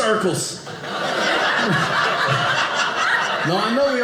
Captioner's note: audience laughing